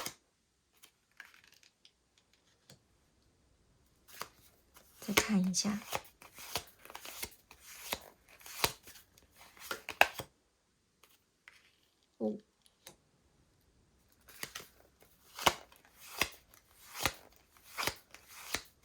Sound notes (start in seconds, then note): 0.0 drawing cards; 5.8 drawing cards